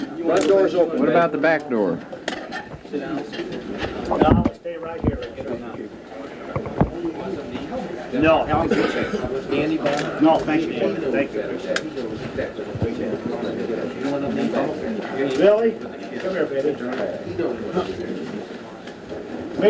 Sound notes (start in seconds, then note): 13.9 crowd murmuring